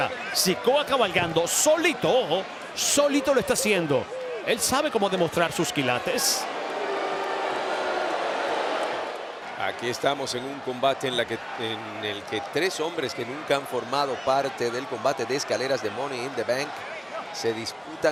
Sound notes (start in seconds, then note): 4.8 applause